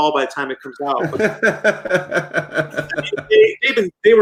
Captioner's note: laughs